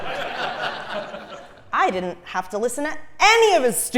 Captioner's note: laugh